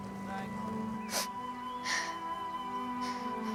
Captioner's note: sniffles